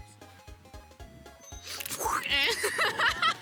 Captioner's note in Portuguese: efeitos sonoros de vento; risos